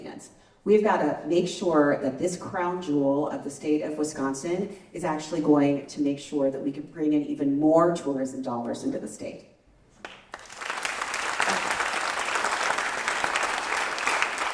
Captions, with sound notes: We've got to make sure that this crown jewel of the state of Wisconsin is actually going to make sure that we can bring in even more tourist dollars into the state. [applause]